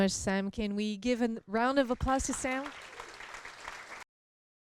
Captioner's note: applause